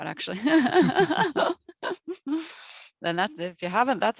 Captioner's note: chuckles